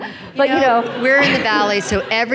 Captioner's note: laughing